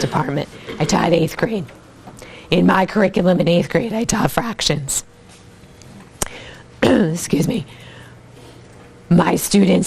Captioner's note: cough